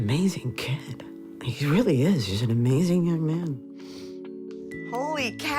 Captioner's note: sniffles